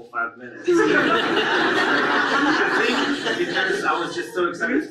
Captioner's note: audience laughs